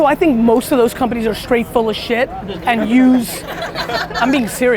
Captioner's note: group laughter